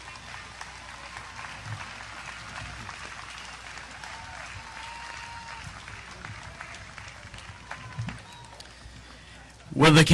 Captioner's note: audience applause